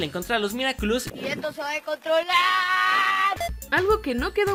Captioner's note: screams in Spanish